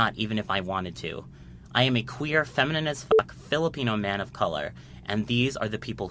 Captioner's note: beep